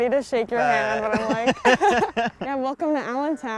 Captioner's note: laughs